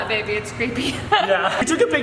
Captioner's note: laughs